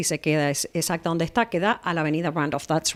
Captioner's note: Hablando ingl\s